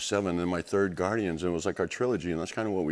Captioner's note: none